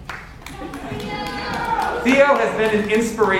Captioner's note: audience members clap